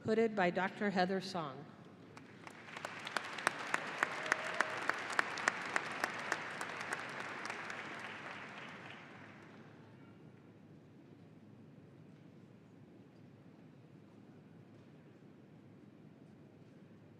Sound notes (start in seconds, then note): 2.2 audience applauding